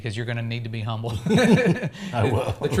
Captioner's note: laughter